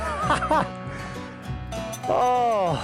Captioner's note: laughing